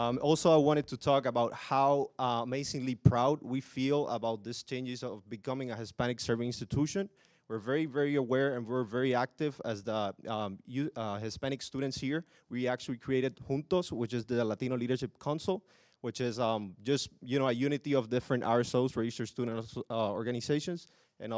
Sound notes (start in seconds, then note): none